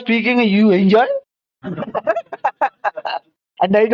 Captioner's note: laughs